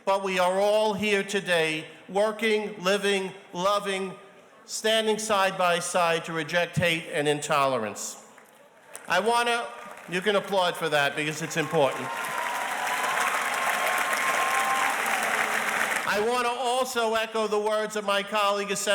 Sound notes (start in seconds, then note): 9.8 audience applauds; 12.6 audience cheers and applauds